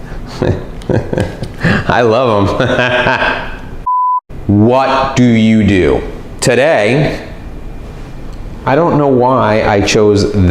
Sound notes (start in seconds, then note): 0.2 laughs